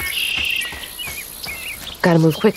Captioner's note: birds chirping